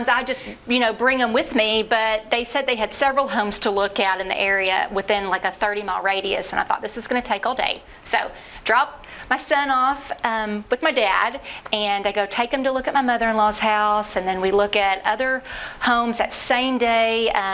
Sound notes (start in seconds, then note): none